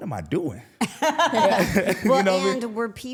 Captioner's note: all laughing